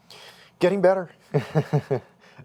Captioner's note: chuckles